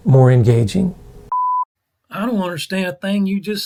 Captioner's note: beep